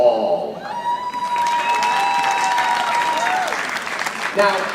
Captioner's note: audience applauding